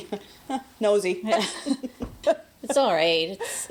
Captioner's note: Alice and Lisa laughing